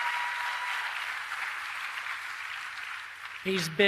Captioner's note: applause